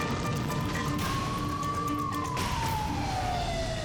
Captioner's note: dramatic music; sirens wailing; fire roaring